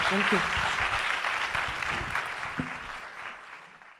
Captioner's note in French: applaudissements